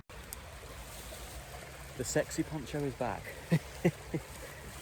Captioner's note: nearby flowing water